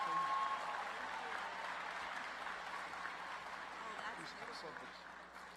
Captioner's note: applause